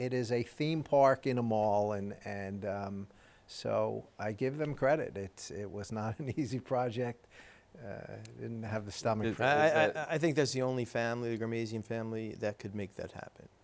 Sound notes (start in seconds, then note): 9.2 chuckles